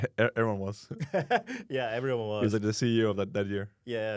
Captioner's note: laughs